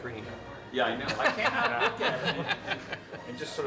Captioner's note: laughs